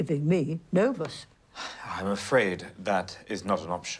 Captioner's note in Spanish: Jim suspira